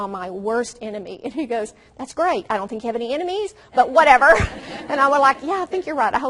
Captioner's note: audience laughs